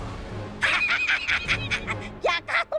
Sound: laughing

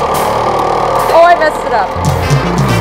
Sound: rattling

